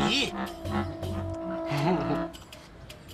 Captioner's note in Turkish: Gülme sesi